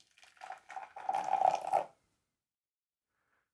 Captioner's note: water pouring